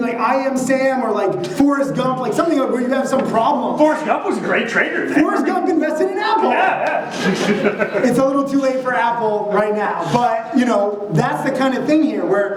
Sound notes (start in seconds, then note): 6.4 chuckling